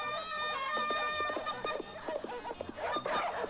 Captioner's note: wolves barking